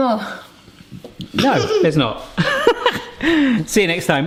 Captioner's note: laughs